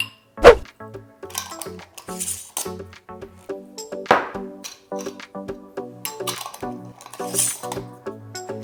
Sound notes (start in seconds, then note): 0.4 air whooshing; 1.8 light music continues